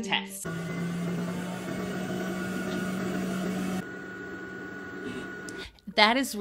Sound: machine whirring

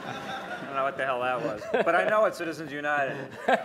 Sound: laughter

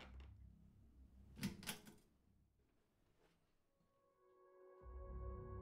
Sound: lamp chain pulling; unsettling minimal music

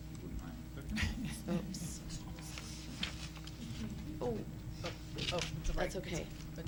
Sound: laughter

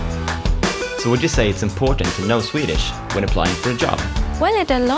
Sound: voice-over

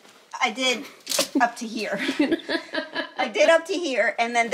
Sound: laughing

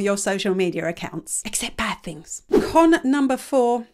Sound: image whooshes

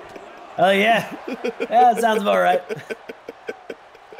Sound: laugh

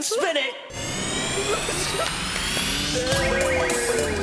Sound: whooshing; upbeat music

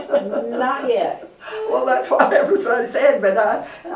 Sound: laughter

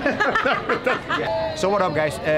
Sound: laughter

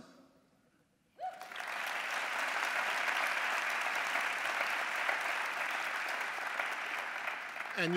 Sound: applause

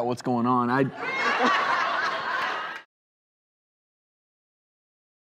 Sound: audience laughs

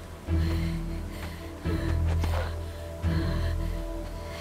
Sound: Googly breathing heavily

